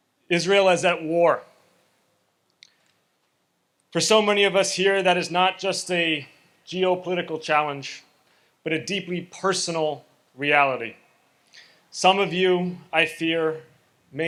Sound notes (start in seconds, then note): none